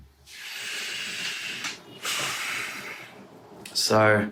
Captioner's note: sighing heavily